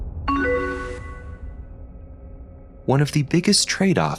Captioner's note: internet message chimes